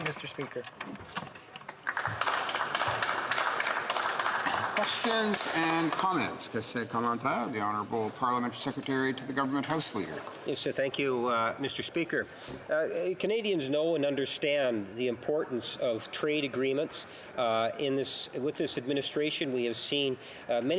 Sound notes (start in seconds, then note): 5.6 some Applause; 9.9 speaking French